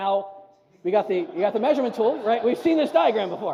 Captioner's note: audience laughs; audience laughs harder